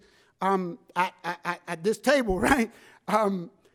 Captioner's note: laughs